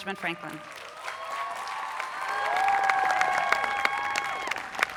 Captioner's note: people cheering